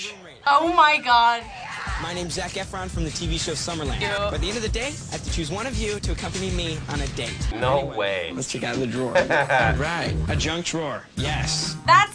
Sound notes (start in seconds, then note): 9.0 laughs